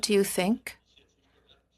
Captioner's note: speaking in French